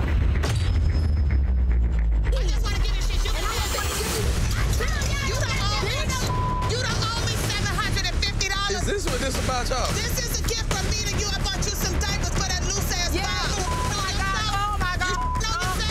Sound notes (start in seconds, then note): 0.1 dramatic music; 4.9 dramatic music; 4.9 shouting; 5.8 beep; 13.2 beep